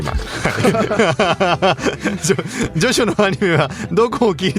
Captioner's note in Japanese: 笑い